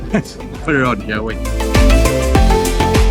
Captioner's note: laughing